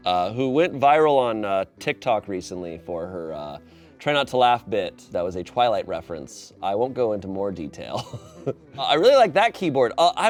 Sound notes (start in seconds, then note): 7.9 laughs